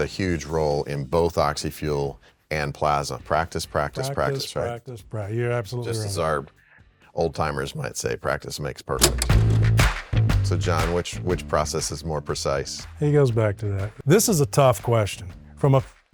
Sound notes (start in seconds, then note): 9.0 lively rock music; 9.0 film clicking